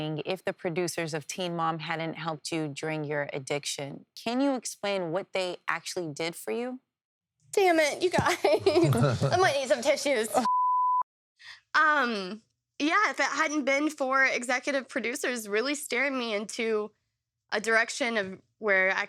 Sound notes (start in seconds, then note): 10.4 beeping